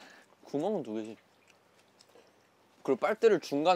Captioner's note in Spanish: Ñamñam